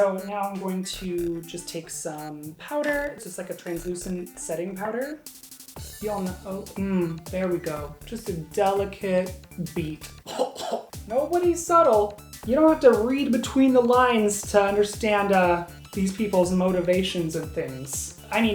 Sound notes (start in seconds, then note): 10.2 coughing